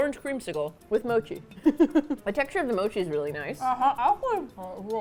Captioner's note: laughs